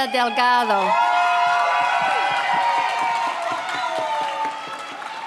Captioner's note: audience cheers